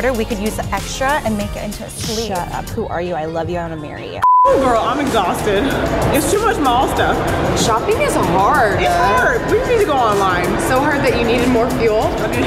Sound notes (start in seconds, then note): 4.2 beeps